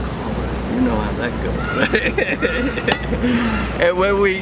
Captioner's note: laughs